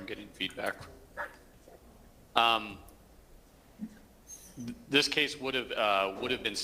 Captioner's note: interference